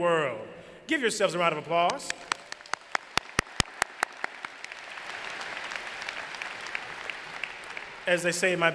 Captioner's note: applause